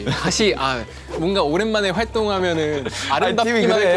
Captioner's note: haha